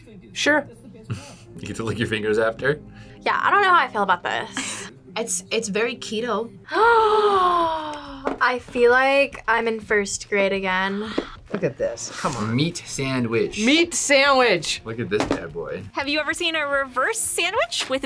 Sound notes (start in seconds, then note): 6.7 gasps